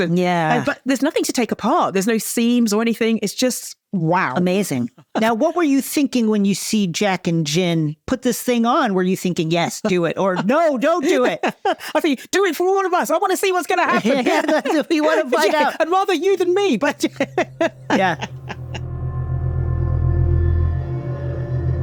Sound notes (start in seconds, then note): 13.9 both laughing; 13.9 chortles; 18.8 foreboding music